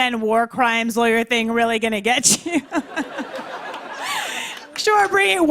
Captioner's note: laughter